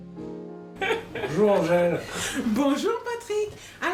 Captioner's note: laughs